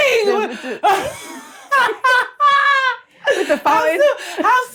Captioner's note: laughs